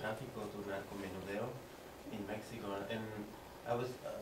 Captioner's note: spanish